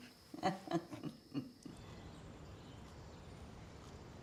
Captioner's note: both laughing